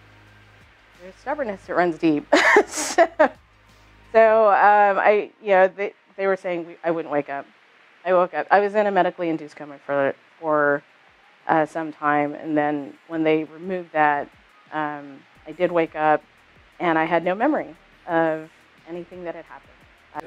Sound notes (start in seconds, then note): 2.2 laughs